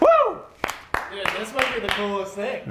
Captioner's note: hands clapping